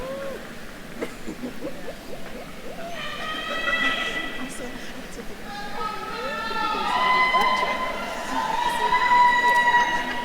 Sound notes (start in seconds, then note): 1.1 faculty member laughing; 3.3 attendees yelling; 6.1 attendees cheering